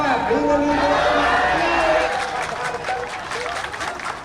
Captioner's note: cheering